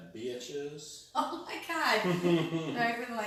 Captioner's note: chuckling